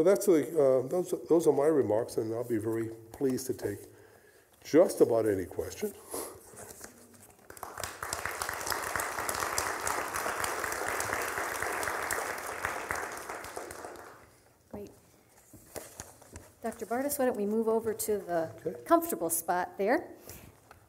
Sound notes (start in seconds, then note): 7.4 applause